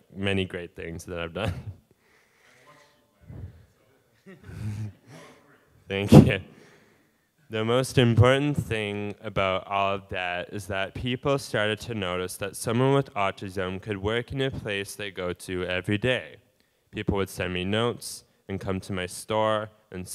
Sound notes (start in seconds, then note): 3.0 audience member calling out; 4.2 laughing